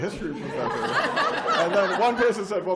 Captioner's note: laughter